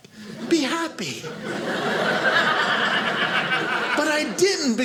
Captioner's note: audience laughing